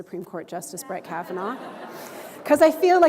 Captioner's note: chuckle